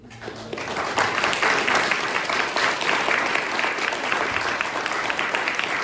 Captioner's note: applause